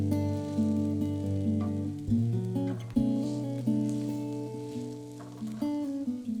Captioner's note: bread sizzling; bright guitar music